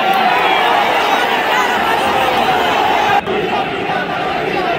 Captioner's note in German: Beifall